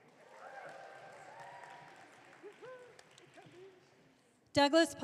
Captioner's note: audience cheering